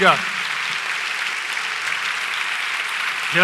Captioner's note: applause